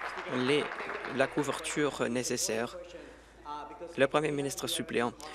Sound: applause

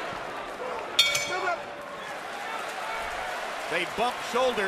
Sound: bell dings

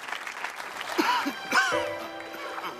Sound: coughing

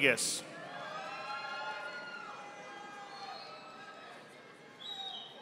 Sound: audience applauding

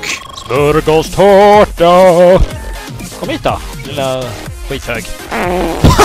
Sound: spoken in Swedish

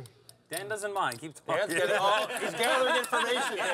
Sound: laughing

